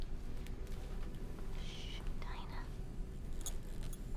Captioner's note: whispers